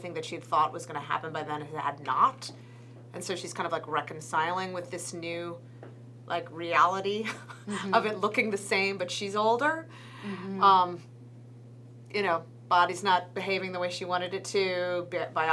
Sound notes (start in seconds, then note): 7.4 laughs